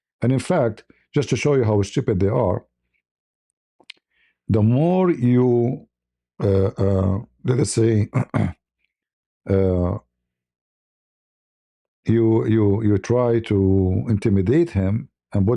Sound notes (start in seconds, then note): 8.0 berdehem